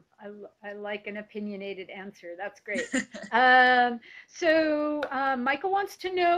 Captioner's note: laughs